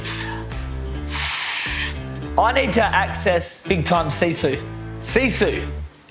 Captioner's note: sighs